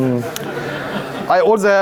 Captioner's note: audience laughing